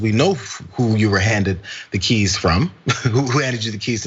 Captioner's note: laugh